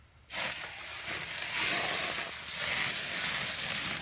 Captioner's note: food sizzling